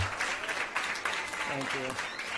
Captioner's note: applause